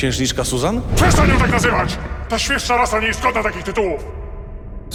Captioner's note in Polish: warknięcie lwa